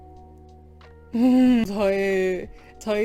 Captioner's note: sobs